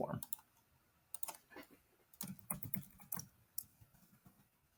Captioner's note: mouse clicks